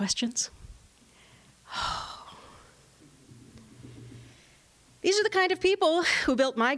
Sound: sighs

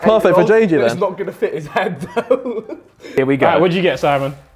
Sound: laughs

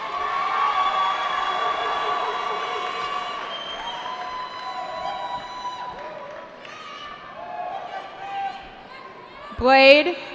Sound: cheering

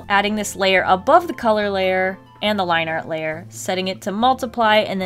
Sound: none

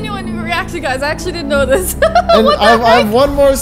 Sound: laughs

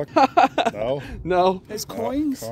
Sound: laughing

